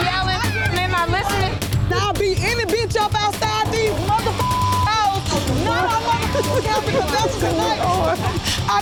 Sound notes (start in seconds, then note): 4.3 beep; 5.4 man laughing